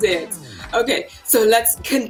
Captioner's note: laughing